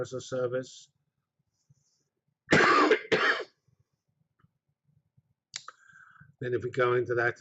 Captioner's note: pause